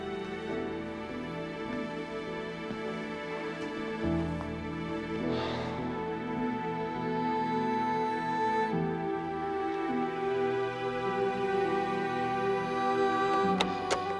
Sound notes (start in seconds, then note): 5.3 sighs